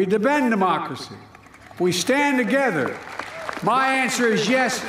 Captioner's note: applause